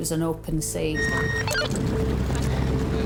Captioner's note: radio beeping; water splashing